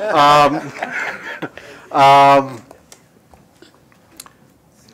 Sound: laughter

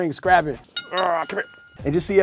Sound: bell dings

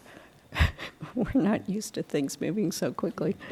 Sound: laughter

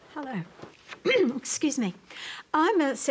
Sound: clears throat

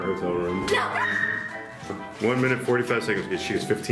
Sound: yells

